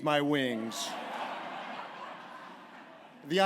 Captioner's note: laughter